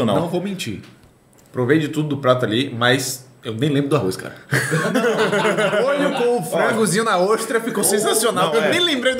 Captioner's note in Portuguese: risos